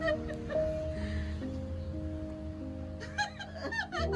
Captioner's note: laughter